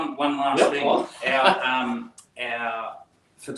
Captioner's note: chuckles